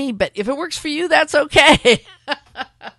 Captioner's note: laughter